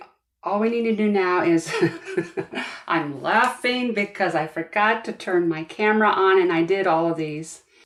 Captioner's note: laugh